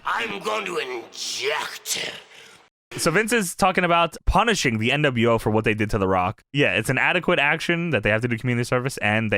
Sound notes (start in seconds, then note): 1.8 spit